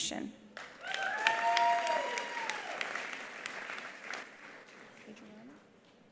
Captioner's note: attendees applauding; attendees cheering